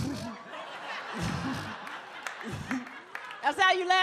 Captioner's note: audience laughs